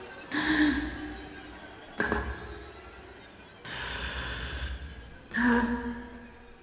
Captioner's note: eerie orchestral music; gasping